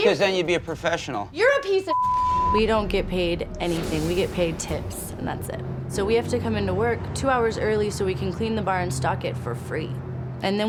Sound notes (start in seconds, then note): 1.9 beep